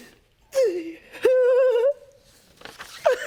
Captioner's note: crying